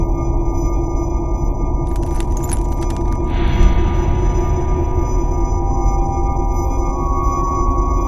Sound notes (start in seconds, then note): 1.8 glass crunching